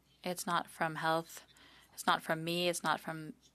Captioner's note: speaking French